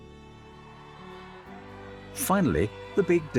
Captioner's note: crowd cheering